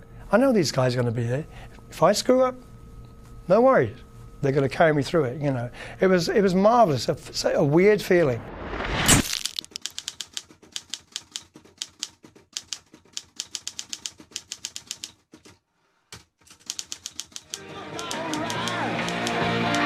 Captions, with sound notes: I know these guys gonna be there. If I screw up, no worry, they're going to carry me through it. You know, it was it was marvelous, a weird feeling [Type writer clicking]